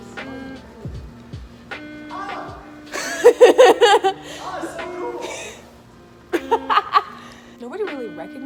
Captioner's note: happy laughter